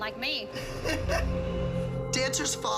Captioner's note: laughs